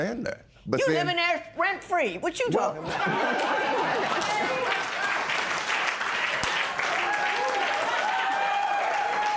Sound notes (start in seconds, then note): 5.0 laughter and applause